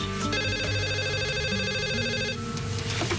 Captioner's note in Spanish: Suena el teléfono